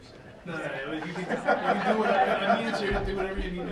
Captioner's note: laughing